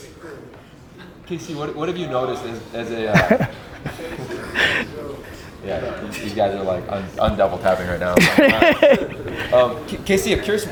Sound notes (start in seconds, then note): 0.1 group chattering; 3.5 group chattering; 8.1 group laughs